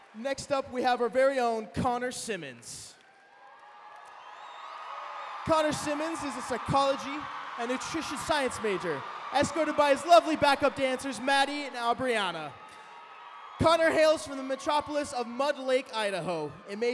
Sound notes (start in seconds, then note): 3.1 cheering